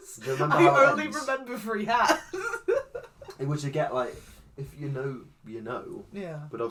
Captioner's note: laughs